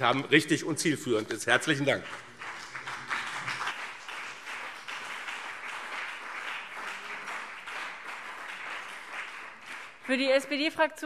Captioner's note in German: Beifall BÜNDNIS 90/DIE GRÜNEN und CDU